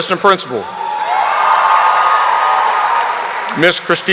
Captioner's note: audience applauding